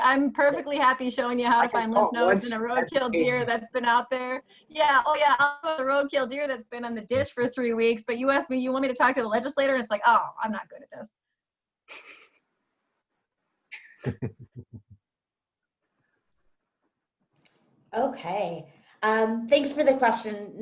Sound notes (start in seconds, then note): 12.0 laughs